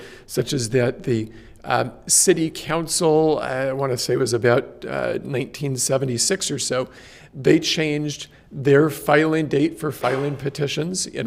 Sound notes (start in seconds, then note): none